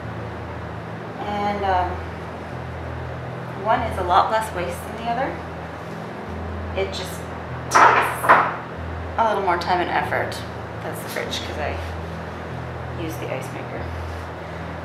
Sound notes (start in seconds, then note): 7.7 banging noises